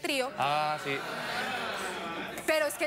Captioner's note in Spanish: exclamaciones del público